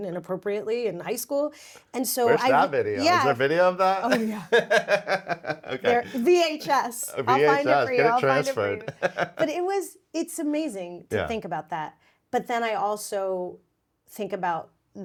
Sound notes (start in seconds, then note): 4.1 laughs; 9.4 chuckles